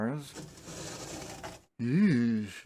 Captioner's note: drawer noises